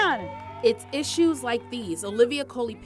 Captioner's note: group cheers